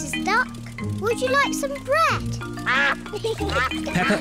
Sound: ducks quack

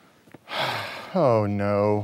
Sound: sighing

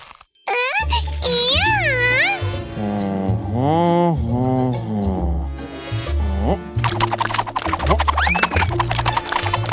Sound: baby talk

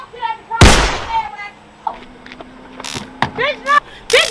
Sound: gunshot blasting

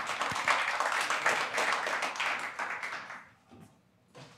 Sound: applause

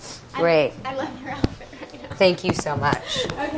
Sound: laughs

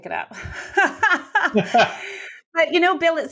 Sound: laughs

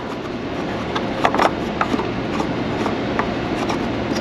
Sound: cap tightening

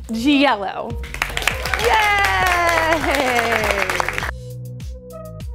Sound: cheering and clapping

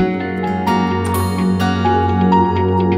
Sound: door opens

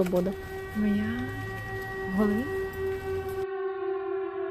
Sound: sound of air raid siren

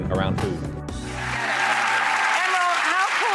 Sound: audience applause

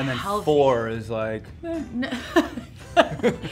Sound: laughs

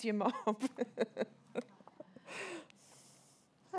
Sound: laughs

